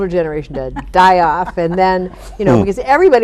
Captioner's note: chuckling